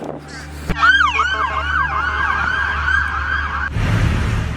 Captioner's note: police sirens blaring